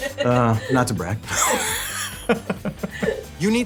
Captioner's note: laughs